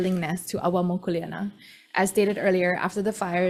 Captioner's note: speaks foreign language